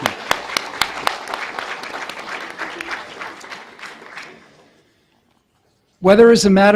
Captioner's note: audience applause